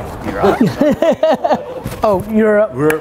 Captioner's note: laughs